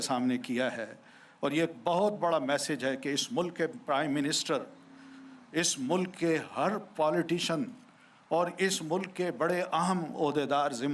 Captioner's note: speaking urdu